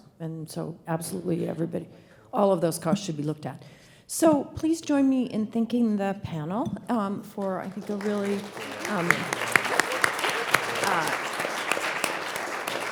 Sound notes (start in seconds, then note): 7.6 audience applauds